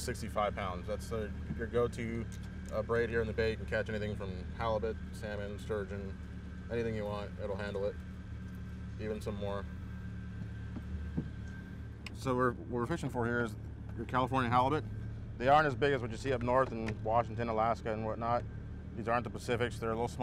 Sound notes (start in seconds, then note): 10.3 boat enging running